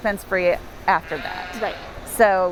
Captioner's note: bleats